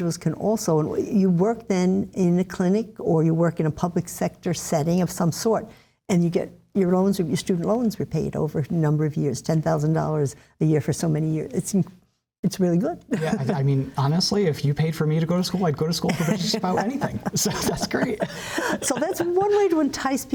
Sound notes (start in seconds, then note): 18.3 laughter